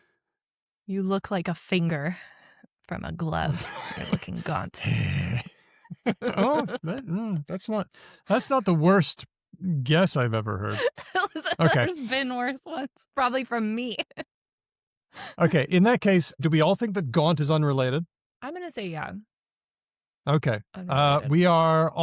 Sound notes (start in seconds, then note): 5.8 laughter; 10.7 laughs